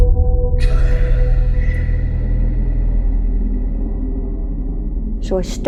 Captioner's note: spooky whisper